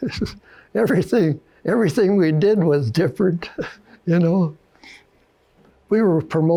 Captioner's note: chuckles